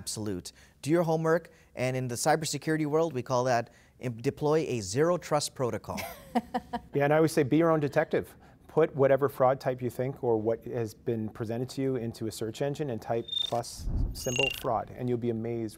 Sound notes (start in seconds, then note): 6.0 chuckling